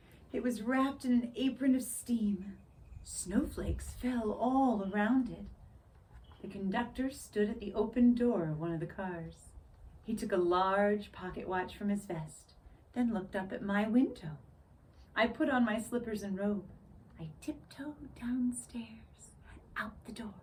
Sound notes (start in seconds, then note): none